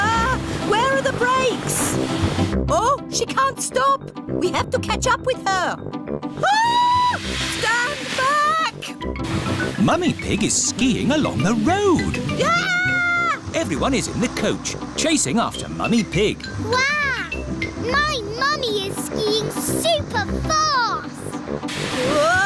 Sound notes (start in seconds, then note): 6.4 shrieks; 12.4 shrieks